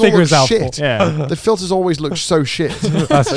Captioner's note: laughing